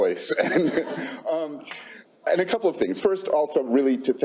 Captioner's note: laughs